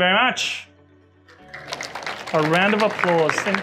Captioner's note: clapping